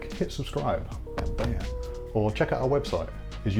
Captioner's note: screen banging